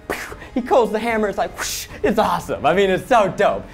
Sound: whooshes

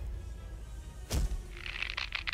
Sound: thud

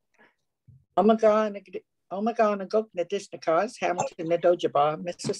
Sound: speaking in foreign language

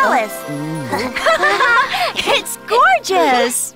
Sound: all laugh

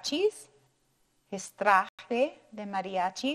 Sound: speaking in foreign language

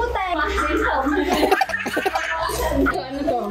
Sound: chuckles

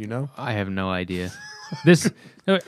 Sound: laughter

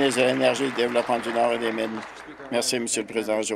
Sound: applause

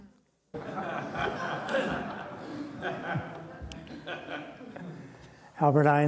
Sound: laughter

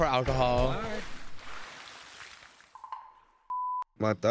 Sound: water splashing

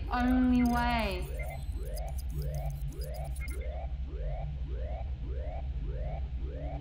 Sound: computer trilling; alarm blaring

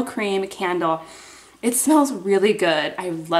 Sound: sniffs

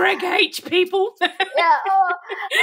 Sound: laughing

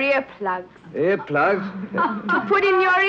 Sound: Petronella laughing

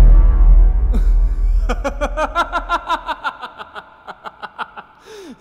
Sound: laughs

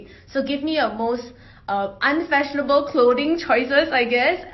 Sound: none

